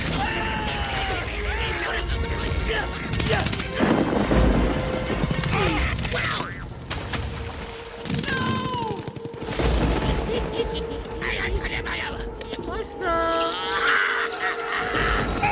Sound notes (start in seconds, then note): 3.6 thunder Crashing; 9.8 chattering; 10.2 giggling; 12.4 chattering; 13.2 giggling; 15.2 screaming